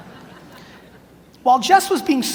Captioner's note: audience laughs